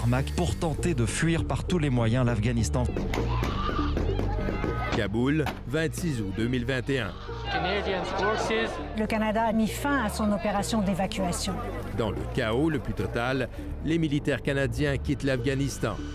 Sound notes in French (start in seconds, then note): 5.1 coups de feu, cris